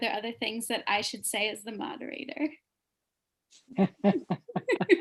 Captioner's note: laughter